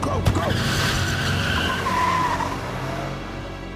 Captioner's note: car cranks and screeches out